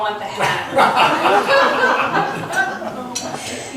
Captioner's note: laughs